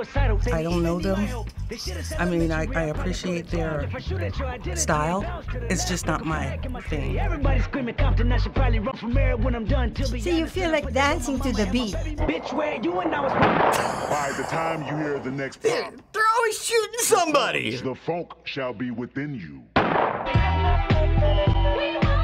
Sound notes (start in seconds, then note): 13.2 gunshot pops; 13.8 snickers; 19.8 gunshot pops